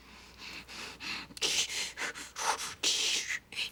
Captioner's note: candy breathing heavily